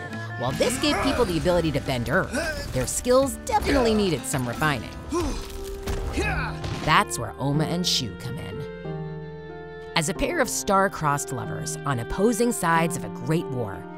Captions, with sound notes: While this gave people the ability to bend earth, their skills definitely needed some refining. [grunting] That's where Oma and Shu come in. As a pair of star crossed lovers on opposing sides of a great war,